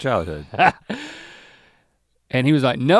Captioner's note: Link chuckles